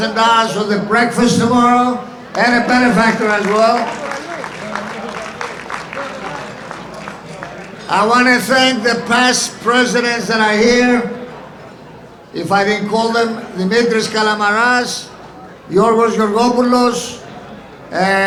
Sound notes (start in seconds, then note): 4.1 audience applauding